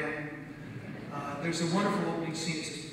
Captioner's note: audience laughs